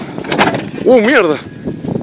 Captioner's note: cracking